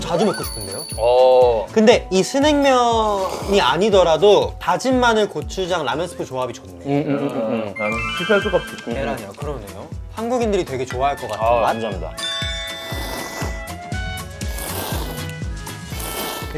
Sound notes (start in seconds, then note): 3.0 slurp